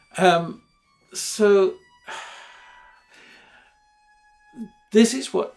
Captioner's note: sighs